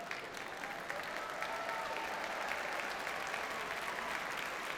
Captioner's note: audience cheers and applauds